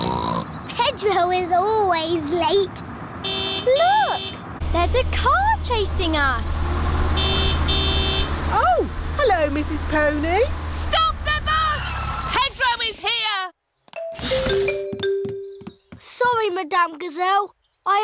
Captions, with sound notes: (SNORTS) Pedro is always late. -(HORN HONKS) -Look, there's a car chasing us! (HONKING CONTINUES) Oh, hello, Mrs. Pony! Stop the bus! Pedro is here! Sorry, Madame Gazelle.